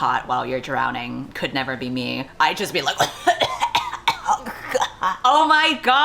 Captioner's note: chokes